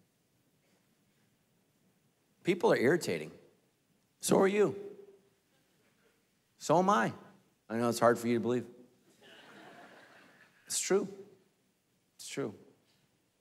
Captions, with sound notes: People are irritating. So are you. So am I. I know that's hard for you to believe. (congregation laughing) It's true, it's true.